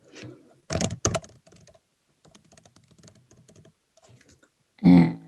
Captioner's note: keyboard clicking